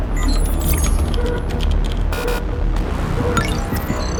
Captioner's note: system beeps